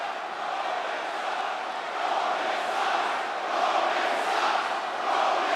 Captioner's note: audience chanting